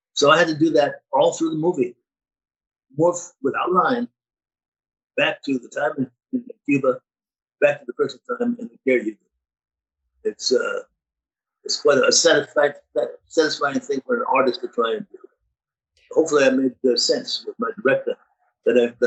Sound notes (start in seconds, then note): 11.0 speaking Spanish